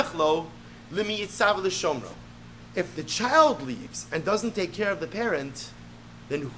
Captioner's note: Hebrew